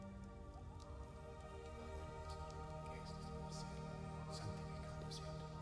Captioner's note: quietly praying in foreign language